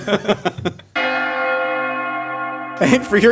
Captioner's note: laughing; bells Ringing